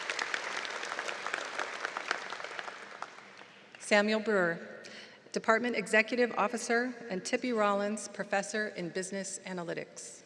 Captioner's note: applause